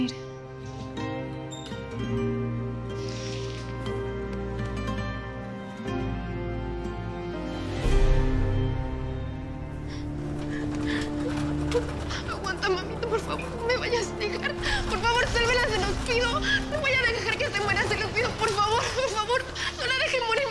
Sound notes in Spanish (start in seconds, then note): 10.4 Sollozos